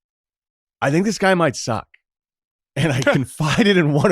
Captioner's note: laughs